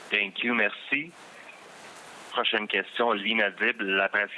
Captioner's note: speaking french